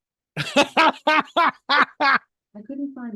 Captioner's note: laughing